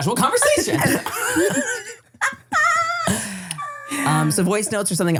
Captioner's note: everybody laughs